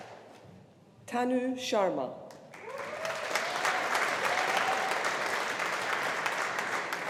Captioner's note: audience applauding